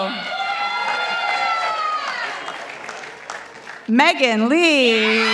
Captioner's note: participants applauding